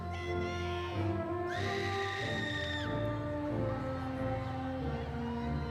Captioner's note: audience members exclaiming